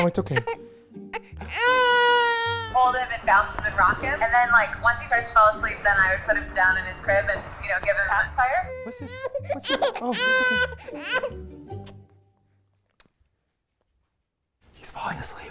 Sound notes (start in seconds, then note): 8.5 cries; 11.8 stops crying